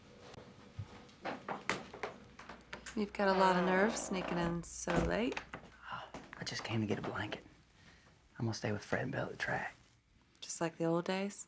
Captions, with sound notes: (door squealing) - You've gotta lot of nerve sneaking in so late. - I just came to get a blanket.